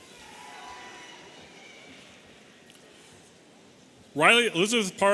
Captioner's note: audience cheering